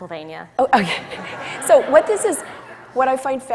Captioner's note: audience laughs